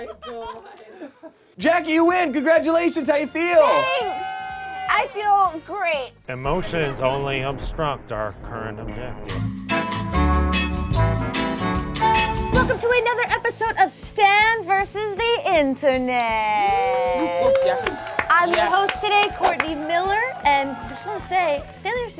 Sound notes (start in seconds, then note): 3.5 group cheers; 9.3 slow bossa nova music; 16.5 group cheers